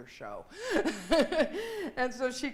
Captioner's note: laughing